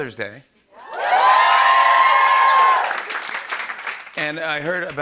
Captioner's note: cheering and applause